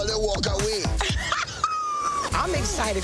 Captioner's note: woman laughing